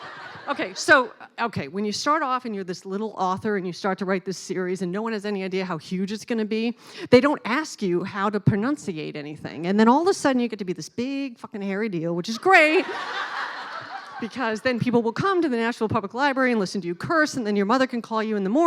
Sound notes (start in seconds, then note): 12.6 laughing